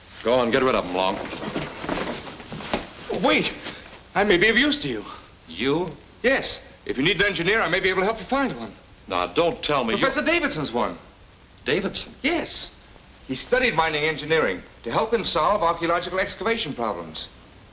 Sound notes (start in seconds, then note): 1.6 feet shuffling